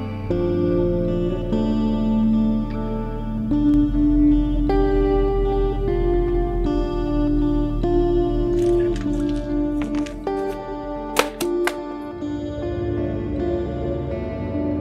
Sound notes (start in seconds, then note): 11.1 newspaper lands; 11.8 ominous music